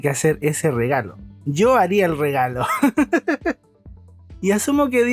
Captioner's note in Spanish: risas